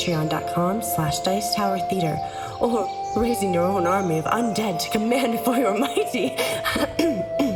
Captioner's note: cough